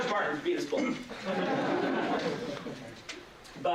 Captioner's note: laughter